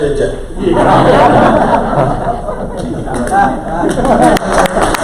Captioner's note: crowd laughter